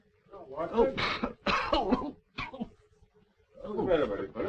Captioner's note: coughing